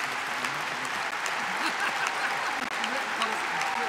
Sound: applause

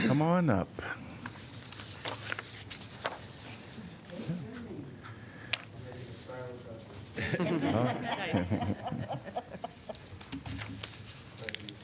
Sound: laughter

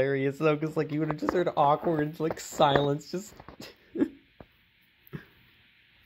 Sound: laughs

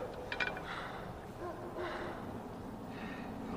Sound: distant dogs barking

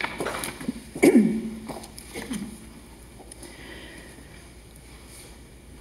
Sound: clears throat

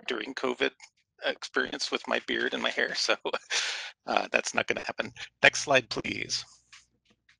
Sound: laughter

